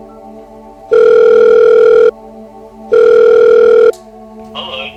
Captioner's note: phone ringing